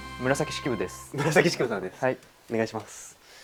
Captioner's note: laughs